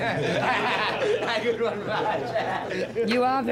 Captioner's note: all laugh